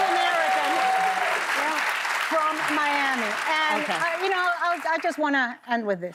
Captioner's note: cheers and applause